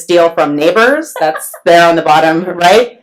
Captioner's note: laughs